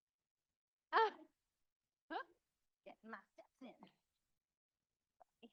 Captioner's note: faintly speaking